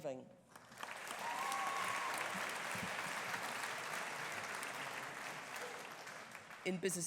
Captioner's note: audience applauding; audience cheering